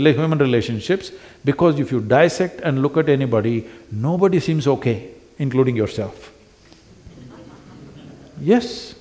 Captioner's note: few laugh